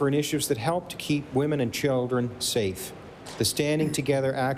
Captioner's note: applause